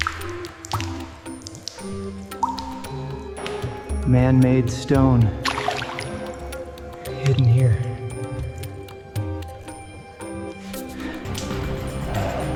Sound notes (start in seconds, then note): 2.5 water splashing